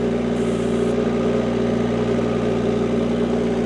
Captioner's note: engine revving